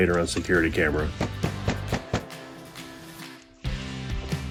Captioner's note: fist banging; upbeat music